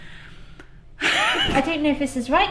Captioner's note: laughs